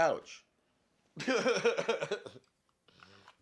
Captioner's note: risas